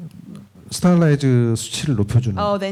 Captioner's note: speaking korean